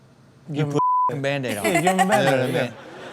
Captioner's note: Chanel laughs